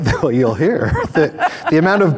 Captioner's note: both laughing; chuckles